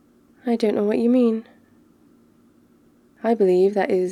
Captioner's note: none